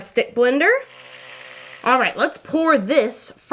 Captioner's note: blender roaring